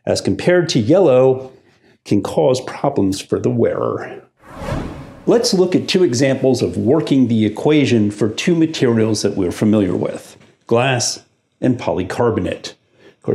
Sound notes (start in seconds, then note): 4.4 air whooshing